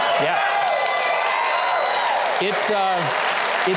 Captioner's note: audience applauds